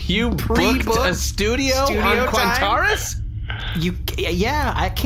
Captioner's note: laughing